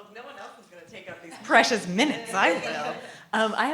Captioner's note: laughter